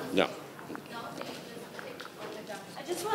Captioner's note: speaking faintly